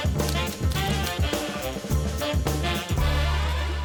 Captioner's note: upbeat music; keyboard clacking